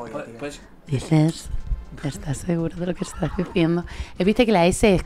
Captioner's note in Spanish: voz de reportera